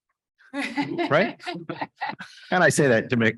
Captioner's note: chuckles